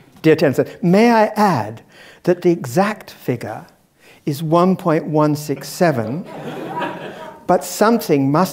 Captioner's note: laugh